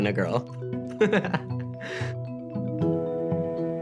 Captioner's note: laughs